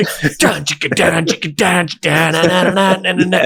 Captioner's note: imitating rock music